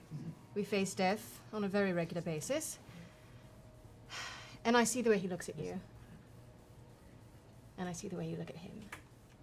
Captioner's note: sighs